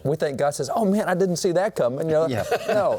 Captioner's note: laughs